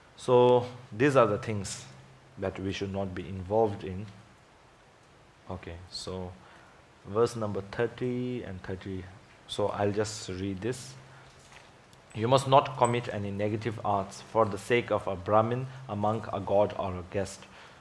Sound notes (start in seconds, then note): none